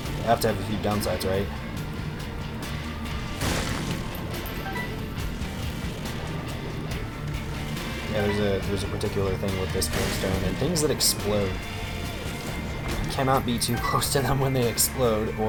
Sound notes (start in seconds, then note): 3.3 boom